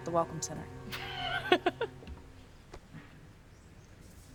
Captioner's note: Claire laughs